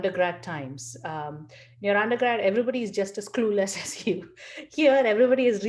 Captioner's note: laugh